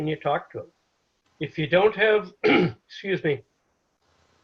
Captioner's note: clears throat